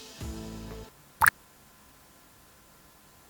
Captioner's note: water sound